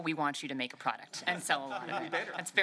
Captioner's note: laughter